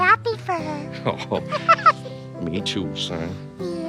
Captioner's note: Elmo laughs; Daddy laughs